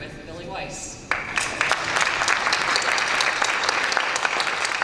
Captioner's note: applause